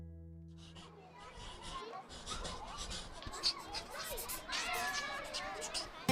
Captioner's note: children chatting and playing quietly